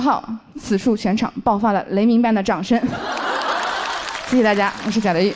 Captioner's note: thunderous applause erupts from the audience